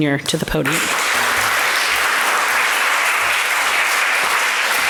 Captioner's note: applause